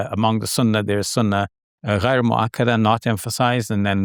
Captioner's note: foreign language